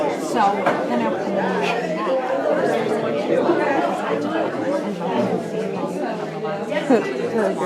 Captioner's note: crowd murmering